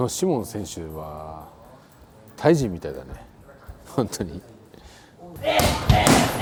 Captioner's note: laugh